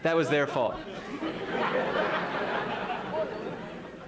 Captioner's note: laughter